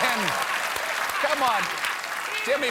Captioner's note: applause; cheers and applause